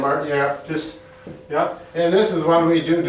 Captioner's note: footsteps tapping